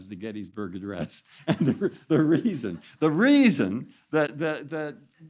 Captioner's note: laughs